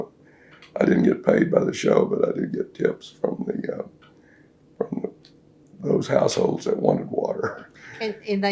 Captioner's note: laughs